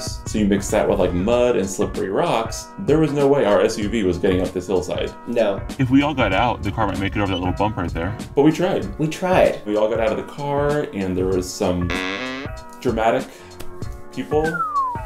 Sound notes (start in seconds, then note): 11.9 door hinging; 14.5 whistle blowing